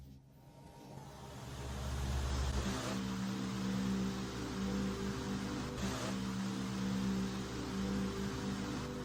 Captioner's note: fan noises